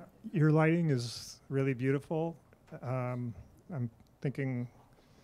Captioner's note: voiceover